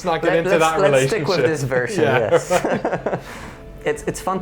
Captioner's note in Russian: смеется